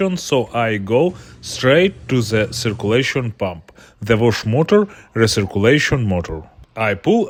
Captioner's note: recirculation motor